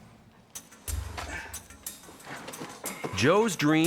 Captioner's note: inquisitive music; grunting